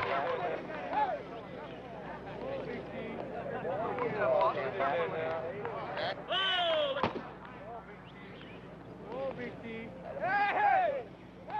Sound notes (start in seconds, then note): 7.0 ball striking glove